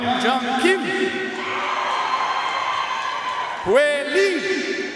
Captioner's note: audience cheering and applauding